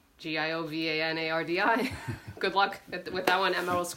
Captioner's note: chuckles